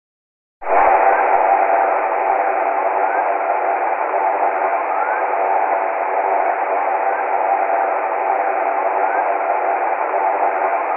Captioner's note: hydrophone at Challenger Deep — a ship passing seven miles above